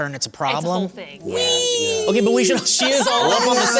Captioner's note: chorus of agreement; laughter